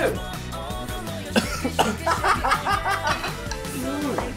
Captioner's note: choked